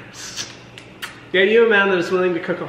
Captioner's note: kissing